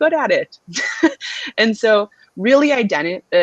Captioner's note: laughter